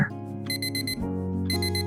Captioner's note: phone ringing